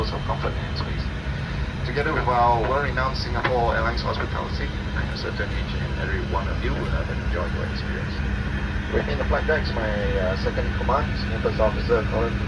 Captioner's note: pilot continuing the announcement in English